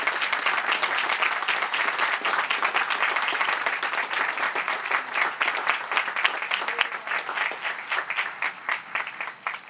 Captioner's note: applause